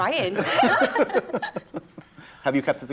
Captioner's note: laughter